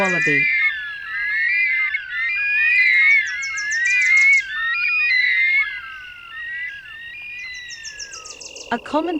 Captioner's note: nocturnal sounds